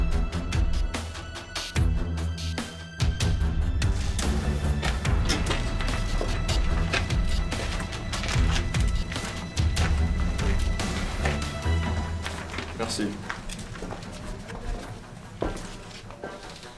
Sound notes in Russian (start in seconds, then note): 12.9 русский акцент